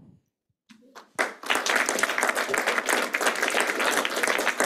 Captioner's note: clapping